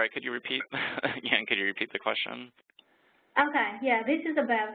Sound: chuckles

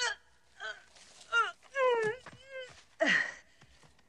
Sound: groaning

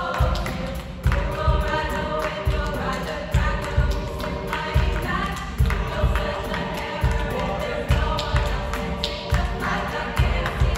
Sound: voices

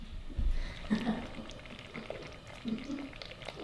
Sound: sarcastic laughing; boiling

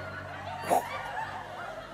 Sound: whoosh noise

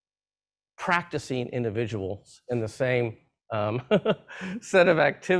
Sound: laughs

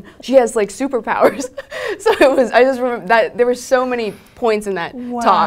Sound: laugh

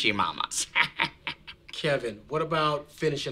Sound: laughing

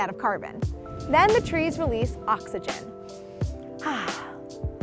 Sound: exhales

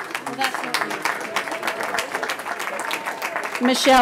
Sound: cheering

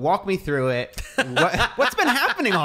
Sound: laughing

